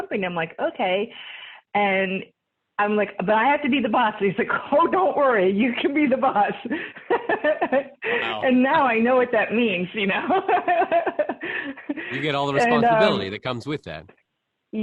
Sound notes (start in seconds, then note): 7.8 laughs; 11.6 laughs